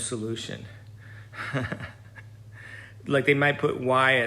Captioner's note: laughs